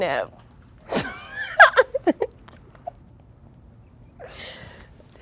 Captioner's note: girls laughing